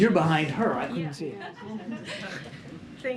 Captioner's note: laughter